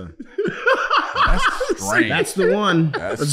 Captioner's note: laughing